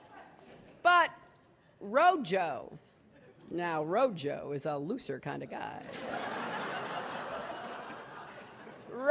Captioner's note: laughter